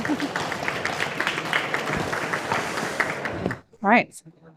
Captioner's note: applause